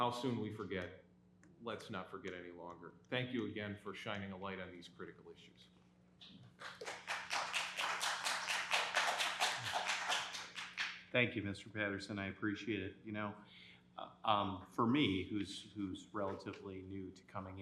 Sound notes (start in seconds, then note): 10.7 applause